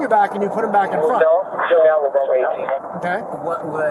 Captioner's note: radio chatter